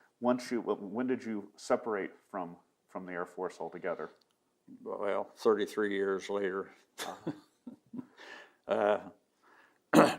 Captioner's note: laughing